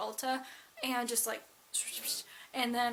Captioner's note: brush cleaning sound effects